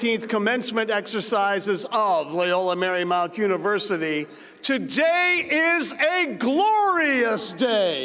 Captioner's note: cheers and applause